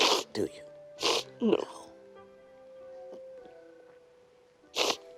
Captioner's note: sniffles; sniffles